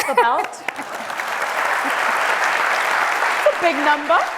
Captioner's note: audience applauds